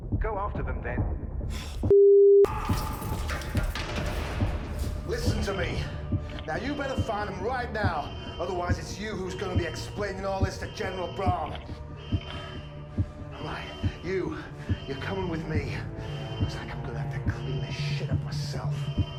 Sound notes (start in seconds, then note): 3.5 dramatic music; 11.8 alarm blaring